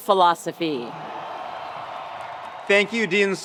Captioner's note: attendees cheering; attendees applauding